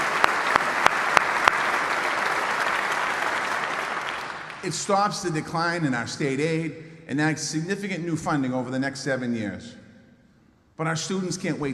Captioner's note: applause